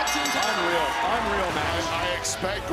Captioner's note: bell rings